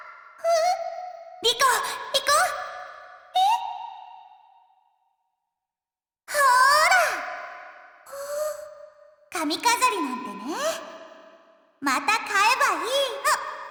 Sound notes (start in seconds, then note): 8.0 gasp